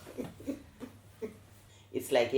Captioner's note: laughter